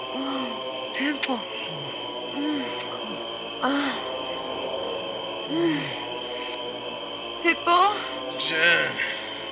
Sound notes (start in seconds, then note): 3.3 pleasure moans